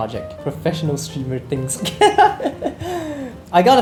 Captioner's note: laughs